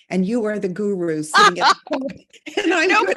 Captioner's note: laughing